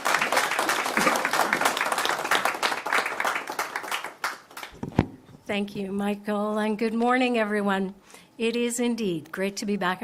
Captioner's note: applause